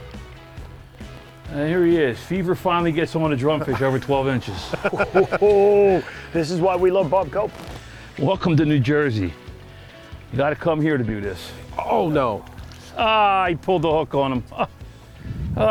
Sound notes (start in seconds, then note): 3.3 laughs